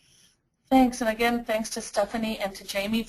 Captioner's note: voiceover